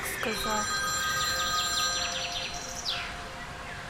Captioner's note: Phone ringing